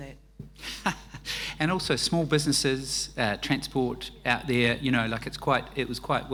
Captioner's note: laughs